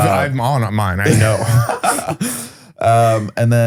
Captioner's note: laughs